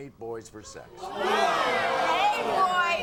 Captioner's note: audience groans